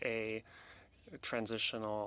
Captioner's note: speaking French